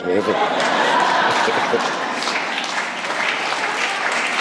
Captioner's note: laughter & applause